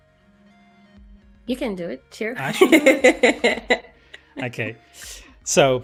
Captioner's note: laughs